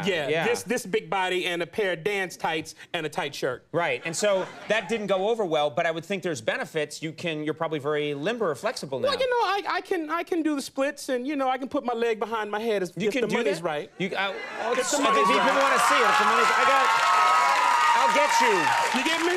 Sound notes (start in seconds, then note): 14.2 audience cheering